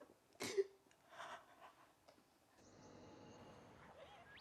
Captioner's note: birds chirping